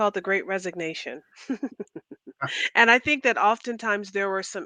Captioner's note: laughter